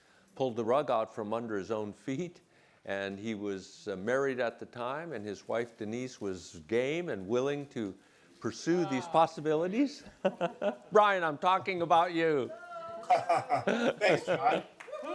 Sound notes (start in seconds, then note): 12.4 laughs